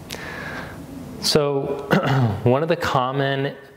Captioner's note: clears throat